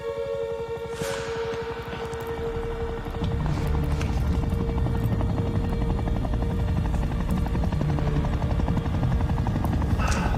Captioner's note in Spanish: Sonido del motor de un helicóptero